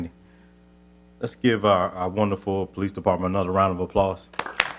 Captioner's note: applause